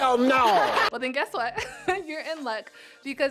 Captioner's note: laughs